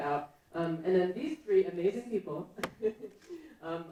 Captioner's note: laughs